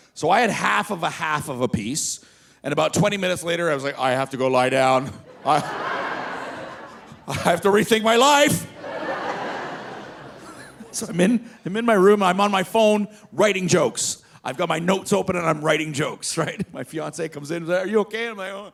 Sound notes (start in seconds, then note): 5.2 audience laughing; 10.0 laughing